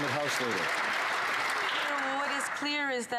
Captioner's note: some Applause